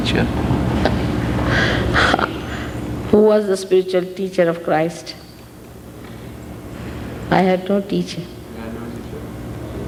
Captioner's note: laughing